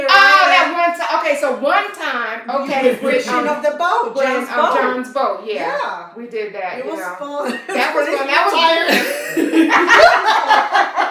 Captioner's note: laughter